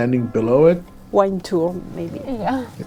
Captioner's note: mumbles: wine tour maybe